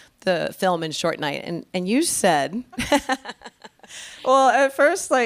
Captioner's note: laughing